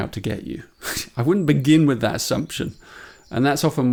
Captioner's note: chuckles